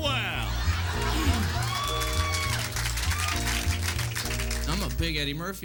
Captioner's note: crowd applauding